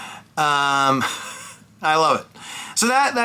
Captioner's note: laughs